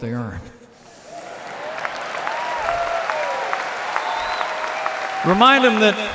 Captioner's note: applause